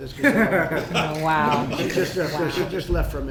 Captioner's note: laughter